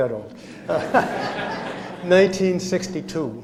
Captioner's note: laughter